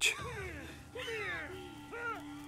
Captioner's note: suspenseful music; gasping